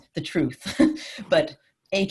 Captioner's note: laughter